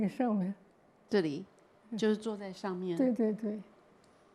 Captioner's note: Mandarin